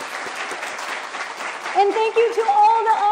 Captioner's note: applause